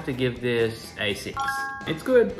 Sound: bell chiming

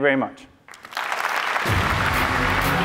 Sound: applause

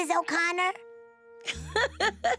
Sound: laughs

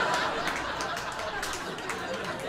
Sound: laughter

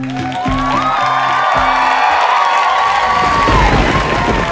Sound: audience cheering; thunder rumbles

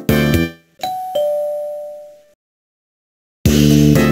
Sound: ding-dong

